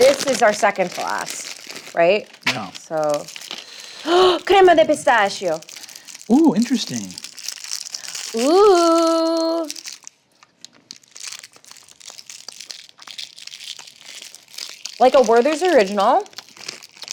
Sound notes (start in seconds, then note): 3.5 gasps; 12.3 wrappers rustling